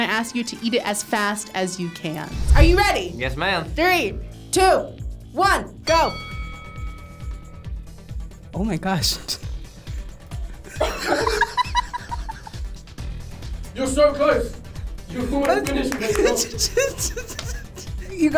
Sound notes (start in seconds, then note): 5.8 bell dings; 10.7 laughs; 16.0 laughing